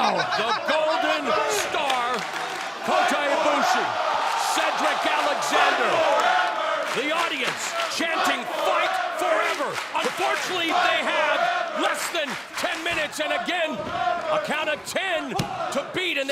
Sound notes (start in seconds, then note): 4.2 applause